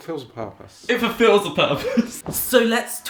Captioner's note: laughs